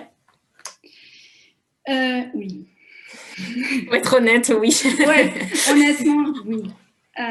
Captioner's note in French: Rires